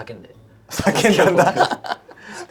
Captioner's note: laughs